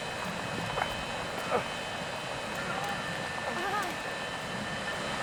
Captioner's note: grunting